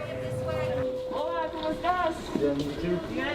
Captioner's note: people chattering